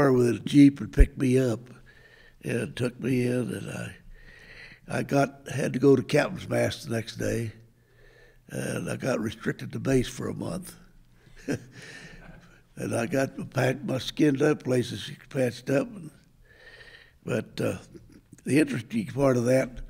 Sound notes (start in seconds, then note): 11.3 chuckles